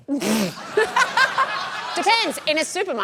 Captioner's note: sputters, laughs